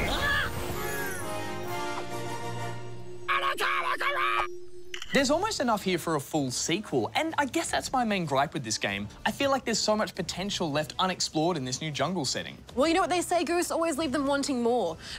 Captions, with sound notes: (TRIUMPHANT MUSIC PLAYS) (SHOUTS) There's almost enough here for a full sequel, and I guess that's my main gripe with this game - I feel like there's so much potential left unexplored in this new jungle setting. Well, you know what they say, Goose - always leave them wanting more.